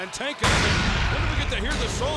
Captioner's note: graphic clanging